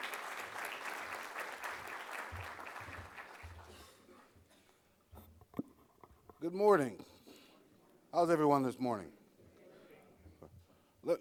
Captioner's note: applause